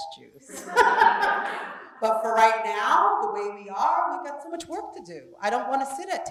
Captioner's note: laugh